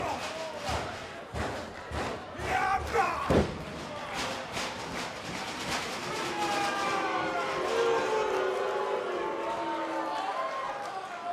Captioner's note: crowd chatter